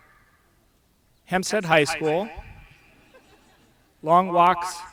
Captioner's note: audience laughs